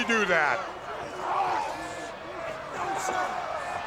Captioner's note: crowd yelling